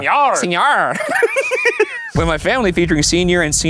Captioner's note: both laughing